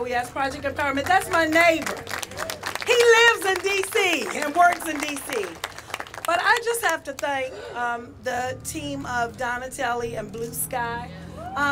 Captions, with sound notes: D.O.E.S., PROJECT, THAT'S MY NEIGHBOR. HE LIVES IN D.C. AND WORKS IN D.C. [ APPLAUSE ] >> BUT I JUST HAVE TO THANK THE TEAM OF DONITELLI AND BLUE SKY